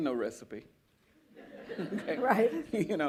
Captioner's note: laughter